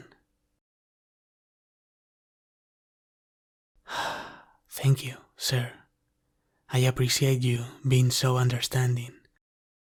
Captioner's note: sigh of relief